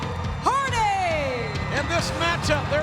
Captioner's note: audience cheering and clapping